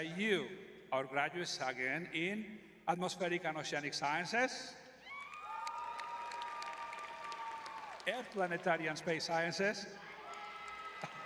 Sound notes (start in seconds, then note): 5.1 audience cheering